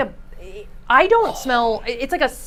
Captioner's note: gasps